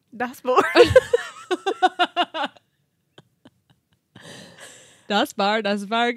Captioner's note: laughing